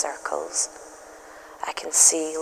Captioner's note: soft echo rises